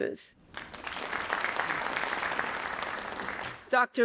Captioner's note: audience applauding